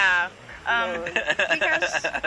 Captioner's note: risas